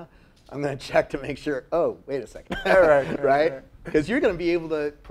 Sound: laugh

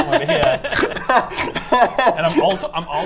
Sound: incredulous laughter

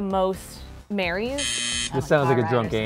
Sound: buzzes

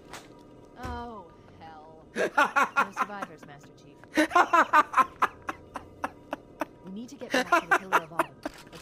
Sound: laughs

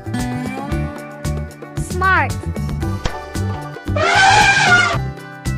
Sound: elephant sound

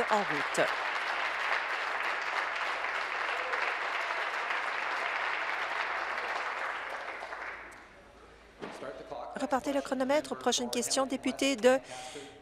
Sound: applause

